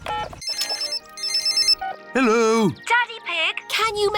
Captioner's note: phone rings